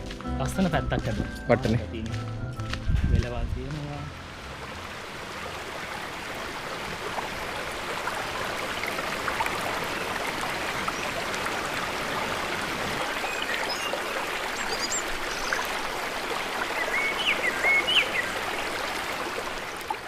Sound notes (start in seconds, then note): 5.3 water flowing; 14.1 birds chirping/water flowing